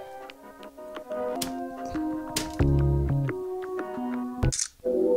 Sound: sound of "tea cozy" being smacked

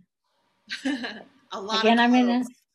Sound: laughing

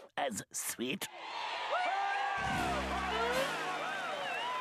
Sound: audience cheering

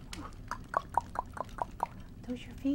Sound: tongue smacking sounds

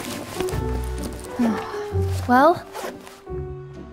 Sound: sigh

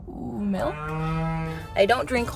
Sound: cow mooing

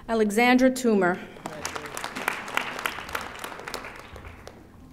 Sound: audience applauding

